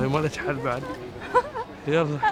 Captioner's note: laughs